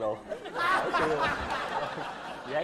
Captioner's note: laughing